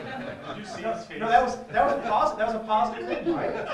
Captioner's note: laugh